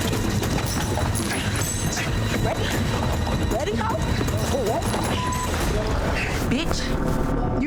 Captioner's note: objects clattering; overlapping chattering